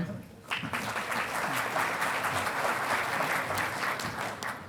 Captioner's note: audience applauding